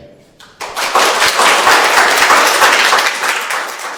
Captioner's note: all applauding